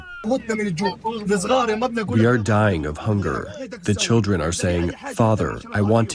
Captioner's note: through translator